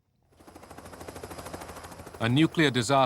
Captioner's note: helicopter